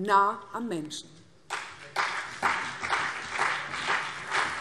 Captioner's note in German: Beifall CDU und BÜNDNIS 90/DIE GRÜNEN